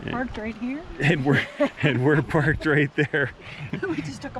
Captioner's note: laughs